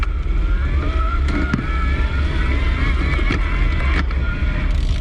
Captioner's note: bicycle motor spinning